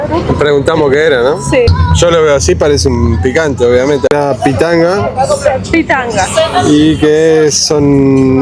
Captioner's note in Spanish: risas